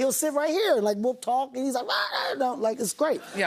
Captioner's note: squawks